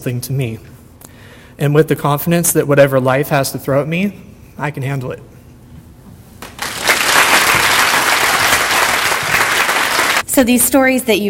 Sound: audience applause

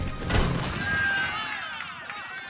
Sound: crumbling; cheers and applause

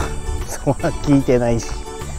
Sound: laughs

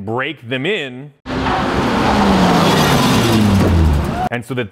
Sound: engine roaring

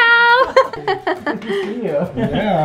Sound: laughs

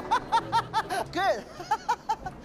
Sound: laughing; laughs

